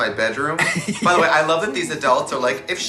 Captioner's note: woman chuckles